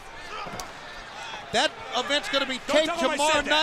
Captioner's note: crowd chatter